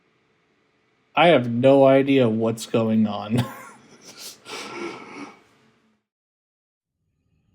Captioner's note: laughter